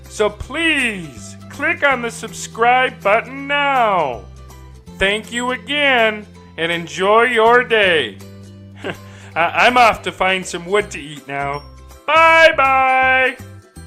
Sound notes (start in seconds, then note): 8.8 laughs; 13.6 light melodic music